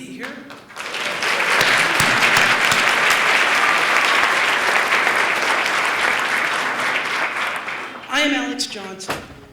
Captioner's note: applause